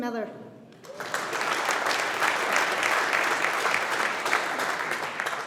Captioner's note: audience applauding